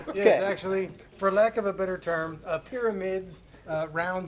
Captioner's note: laughter